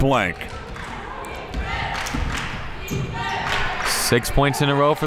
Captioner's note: cheering